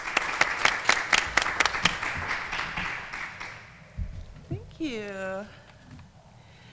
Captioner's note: applause